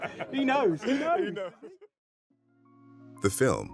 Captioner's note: interviewer laughs; Will laughs